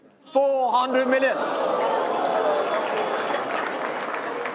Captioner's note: crowd clapping